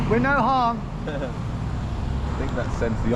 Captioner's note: chuckling